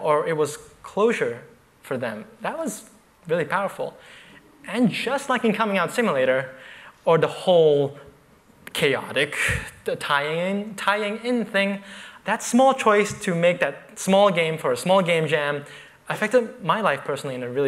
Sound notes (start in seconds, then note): none